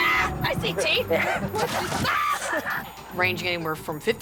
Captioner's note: screams